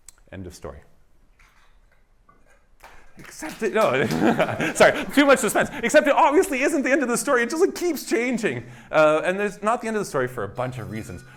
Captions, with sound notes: End of story. [APPLAUSE] Except-- no. [LAUGHS] Sorry. Too much suspense. Except, it obviously isn't the end of the story. It just keeps changing. And there's not the end of the story for a bunch of reasons.